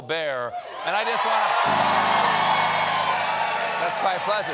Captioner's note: cheers and applause